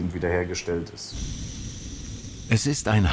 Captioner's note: hissing of the burner